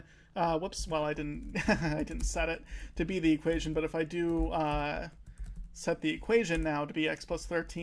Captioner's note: laughing